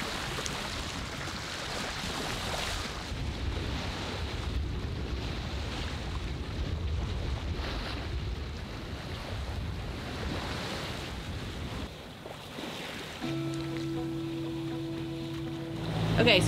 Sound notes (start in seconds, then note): 3.7 waves crashing; 13.2 soft music